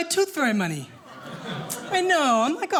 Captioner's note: audience awing